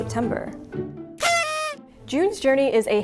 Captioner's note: party horn sound